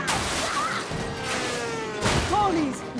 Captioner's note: crash!